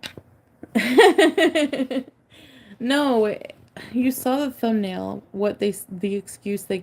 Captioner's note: laughs